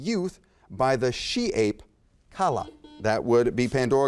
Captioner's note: buzzer beeps